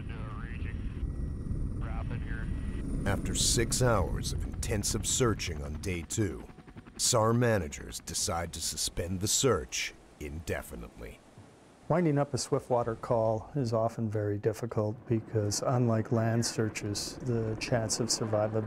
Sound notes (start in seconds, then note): 13.2 voiceover